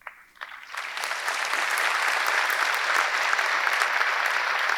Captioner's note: audience clapping